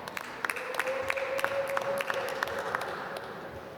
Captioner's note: applause